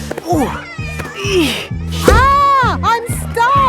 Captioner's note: grunting